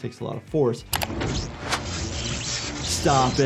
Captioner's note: electricity buzzing